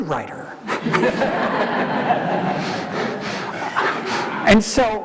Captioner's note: audience laughing